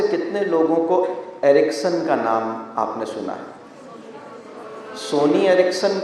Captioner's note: many voices from the audience